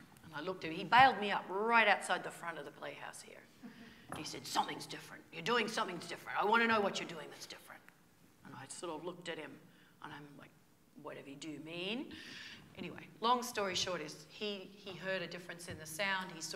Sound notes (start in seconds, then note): 4.2 imitating Joe